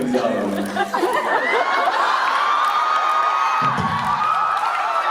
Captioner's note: audience cheers; rimshot on drums; audience continues cheering